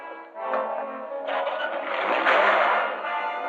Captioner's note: engine starting